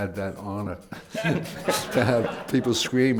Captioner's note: laughter